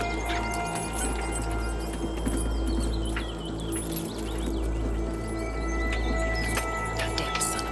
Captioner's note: ominous music; keys jingling